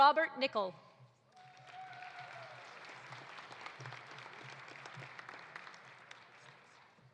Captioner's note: audience cheering; audience applauding